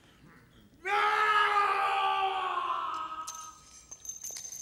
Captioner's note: screaming